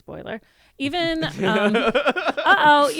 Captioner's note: everyone laughs